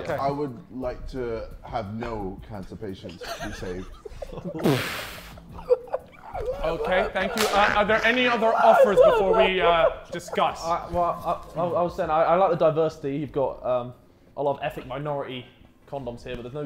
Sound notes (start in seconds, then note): 3.5 Sidemen laughing